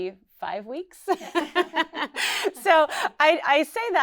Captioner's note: laughs